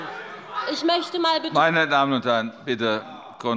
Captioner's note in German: Zurufe von der SPD